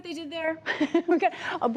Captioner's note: laughter